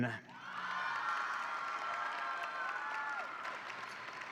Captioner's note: audience cheering